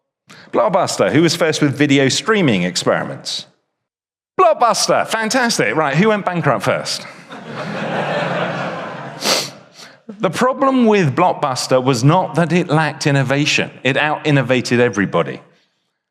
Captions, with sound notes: Blockbuster. Who was first with video streaming experiments? Blockbuster! Fantastic! Right. Who went bankrupt first? [audience laughs] The problem with Blockbuster was not that it lacked innovation. It out-innovated everybody.